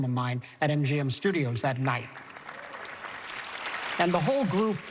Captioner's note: applause